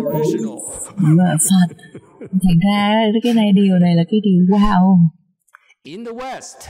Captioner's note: laughter